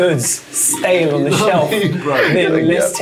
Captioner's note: laughs